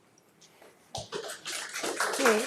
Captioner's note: audience applauds